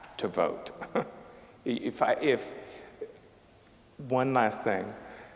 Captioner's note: chuckling